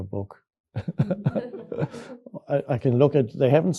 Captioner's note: Eckhart chuckles; audience member laughs